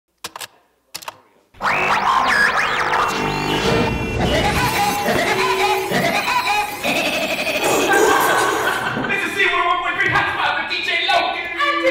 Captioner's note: Radio DJ 'zoo crew' noises